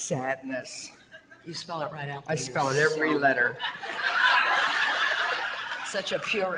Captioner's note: audience laughter